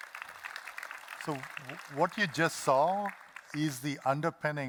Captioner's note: applause